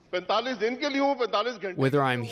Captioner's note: through translator